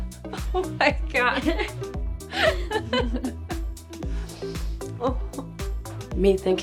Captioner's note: laughs